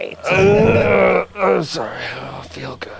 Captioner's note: groans